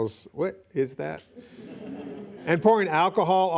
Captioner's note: laughing